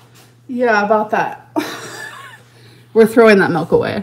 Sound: laughs

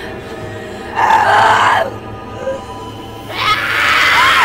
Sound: screaming

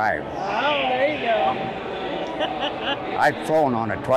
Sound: chuckles

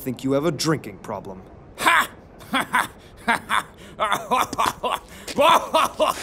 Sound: laughing

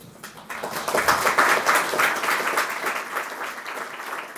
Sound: applause

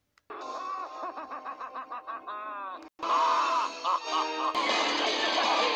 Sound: Rahzar Laughs; Tokka Laughs

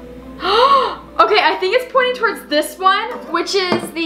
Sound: gasp

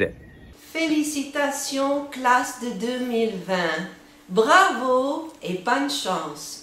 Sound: speaks in foreign

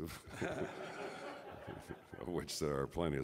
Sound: audience laughs

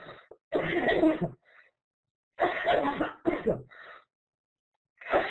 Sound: coughs

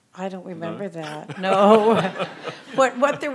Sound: laughs

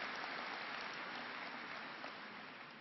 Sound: applause

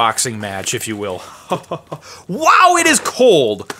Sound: chuckling

